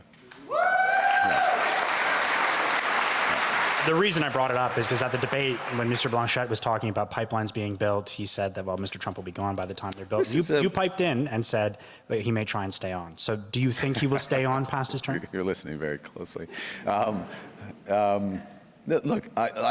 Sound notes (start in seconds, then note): 3.9 cheers and Applause